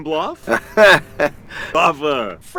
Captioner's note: laughes